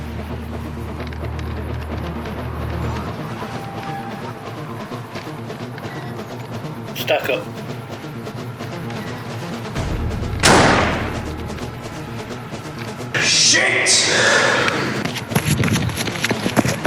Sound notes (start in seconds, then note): 9.8 gunshot through metal wall